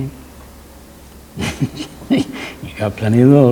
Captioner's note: laughs